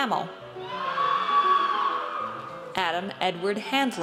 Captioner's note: audience cheers